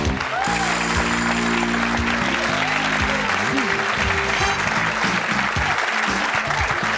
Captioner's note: audience applause; upbeat music